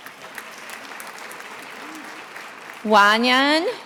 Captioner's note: attendees applauding